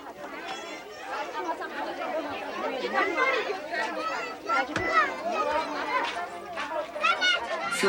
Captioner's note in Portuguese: conversas e vozes de crianças